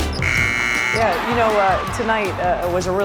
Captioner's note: buzzer